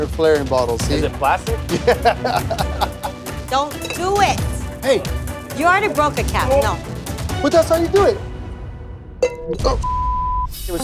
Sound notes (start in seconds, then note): 1.7 laughs; 8.7 clink